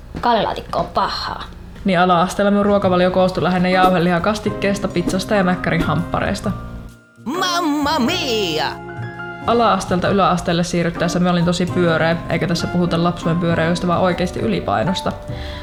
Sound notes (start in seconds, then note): 6.7 sarcastically